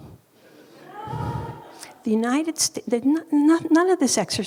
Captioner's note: audience laughing